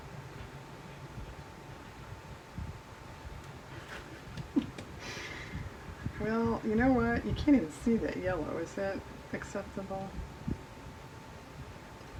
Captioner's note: laughs